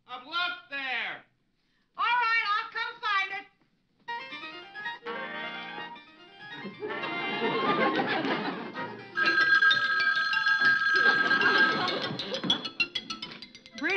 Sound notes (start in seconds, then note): 4.5 upbeat music; 6.5 audience laughing; 9.1 telephone ringing; 11.0 audience laughing; 11.4 upbeat music